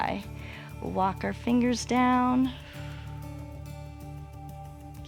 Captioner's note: exhales